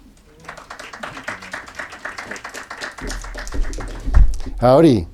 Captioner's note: audience clapping